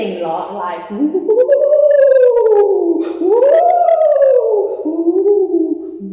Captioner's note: ghost sounds